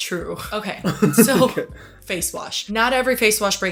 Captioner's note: Hyram laughs